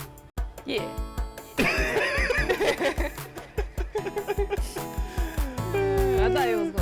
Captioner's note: both laugh